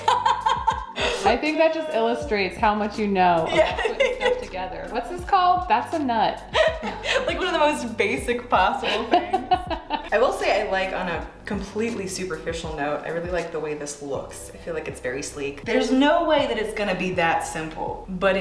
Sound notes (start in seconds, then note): 0.0 laughs; 3.4 laughs; 8.8 laughs